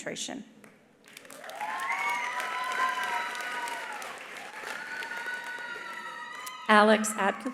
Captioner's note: attendees applauding; attendees cheering